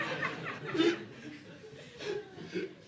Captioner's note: audience laughing